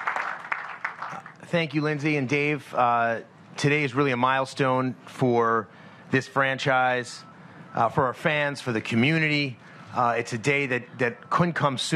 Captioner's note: applause